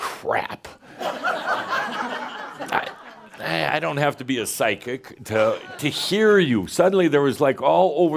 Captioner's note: laughter